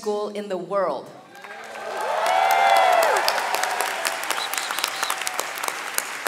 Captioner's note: audience cheering and clapping